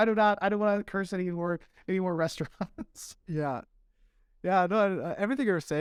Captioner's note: laughter